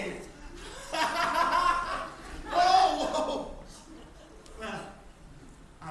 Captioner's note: laughs